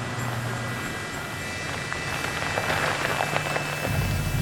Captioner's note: vehicle engine whirring